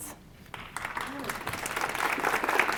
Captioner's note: audience applauding